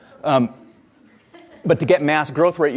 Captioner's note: audience laughs